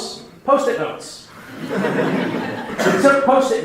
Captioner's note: laughing